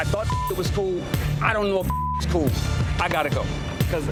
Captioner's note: beep